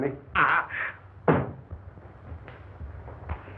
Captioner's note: door opens